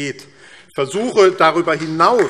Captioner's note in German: Beifall AfD